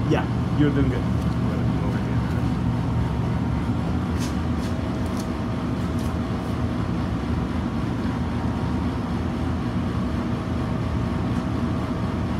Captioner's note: background noise from freezers, etc